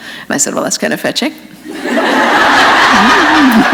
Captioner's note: laughter